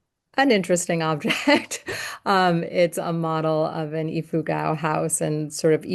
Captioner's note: laughter